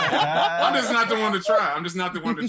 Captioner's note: laughter